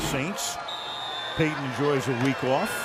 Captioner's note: whistle